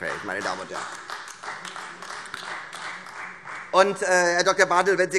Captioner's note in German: Beifall Freie Demokraten und AfD